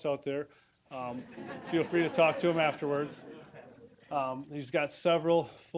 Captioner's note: audience laughing